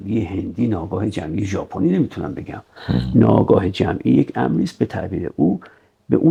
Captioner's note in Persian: صدای خرناس